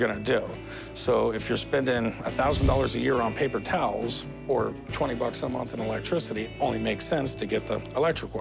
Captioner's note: none